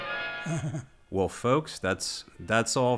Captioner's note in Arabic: يضحك